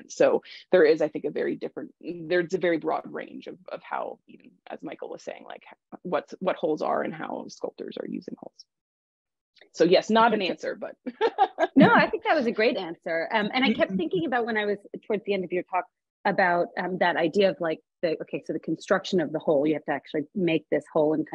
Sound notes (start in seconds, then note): 11.2 laughs